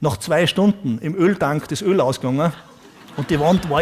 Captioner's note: audience laughs